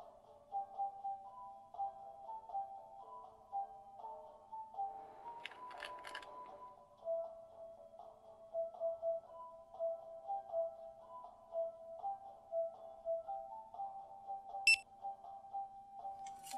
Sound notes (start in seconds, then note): 5.4 crinkling candy package; 14.6 single cash scanner beep